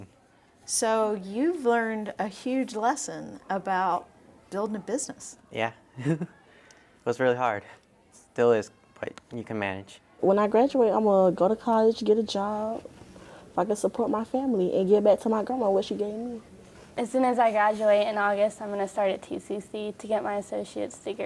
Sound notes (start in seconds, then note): 6.0 laughs